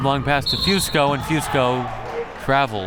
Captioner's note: whistle